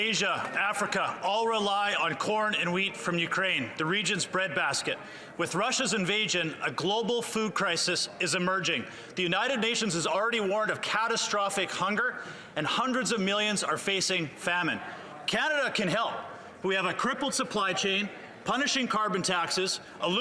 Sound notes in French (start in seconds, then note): 3.6 voix de l'interprète